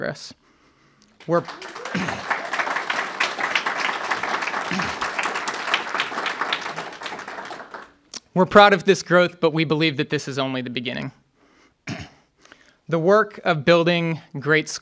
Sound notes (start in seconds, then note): 4.2 applause